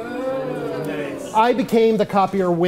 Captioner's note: audience oohs